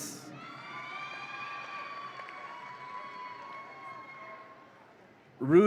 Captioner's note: audience applauds and cheers